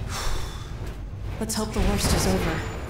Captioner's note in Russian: Вздох